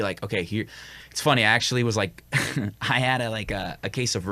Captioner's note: chuckles